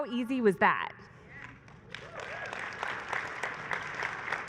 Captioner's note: applause